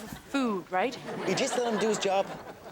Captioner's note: audience laughs